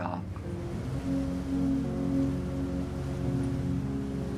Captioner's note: boat engine humming